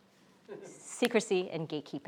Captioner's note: chuckles